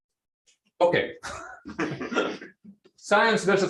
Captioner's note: laughter